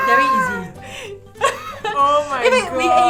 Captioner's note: laughs